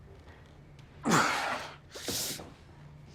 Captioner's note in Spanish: Gruñe